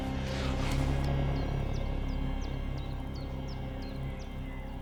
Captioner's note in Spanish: pájaros cantando